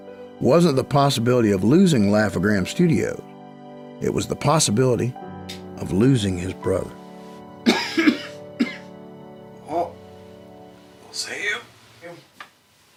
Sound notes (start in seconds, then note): 7.6 coughing